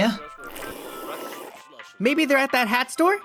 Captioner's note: Vaporeon slurps loudly